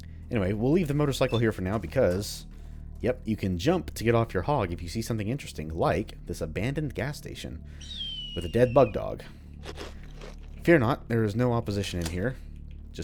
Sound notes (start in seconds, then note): 7.8 hawk screeches